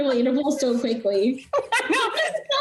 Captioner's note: laughing